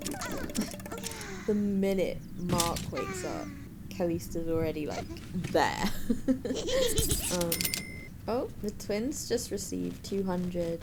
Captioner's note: laughing; laughs